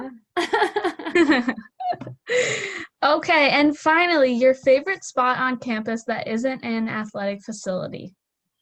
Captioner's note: laughter